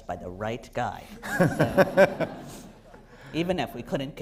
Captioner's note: laughter